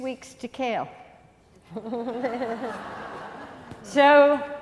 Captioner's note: laughing